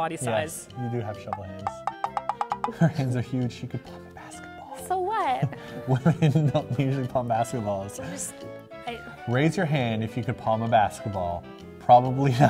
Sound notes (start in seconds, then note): 2.0 creaking sound effects